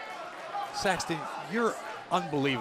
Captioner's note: crowd chatter